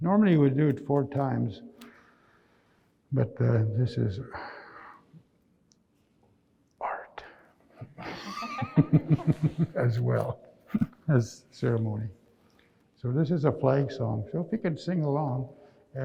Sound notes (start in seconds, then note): 8.0 all laugh